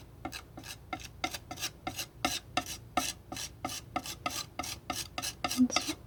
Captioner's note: scratching